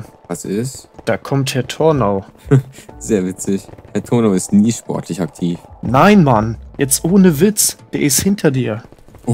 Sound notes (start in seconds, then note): 2.4 giggles